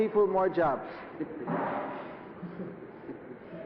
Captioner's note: laughter